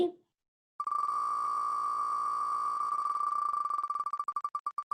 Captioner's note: ticking of wheel spinning